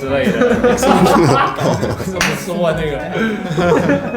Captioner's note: suddenly triggering laughter